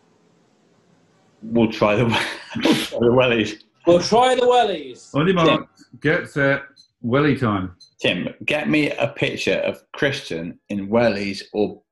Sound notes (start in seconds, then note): 1.7 laughing